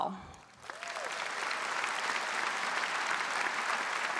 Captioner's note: audience applauds